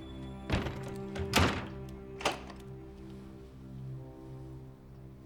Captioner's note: door latch clicks and thuds